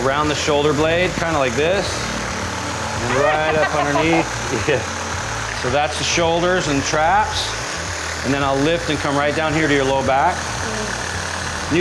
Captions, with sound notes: - We go around the shoulder blades kinda like this. Right above here. (laughs) So, that's shoulders and traps. And then I'll lift and come right down here to your lower back.